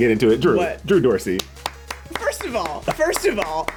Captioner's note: hands clapping